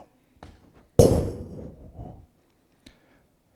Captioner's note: thudding on ground